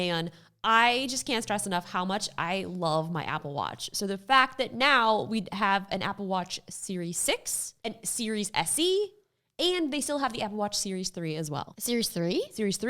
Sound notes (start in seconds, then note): none